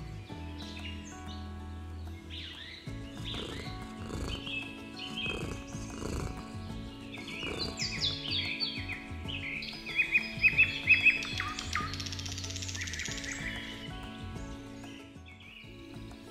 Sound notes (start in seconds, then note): 0.0 birds singing; 2.9 Milo purrs; 8.9 birds singing